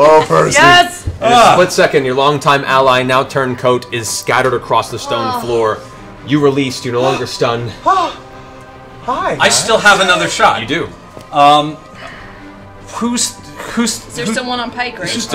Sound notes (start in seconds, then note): 8.1 gasps